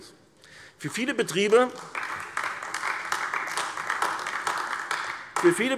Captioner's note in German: Beifall AfD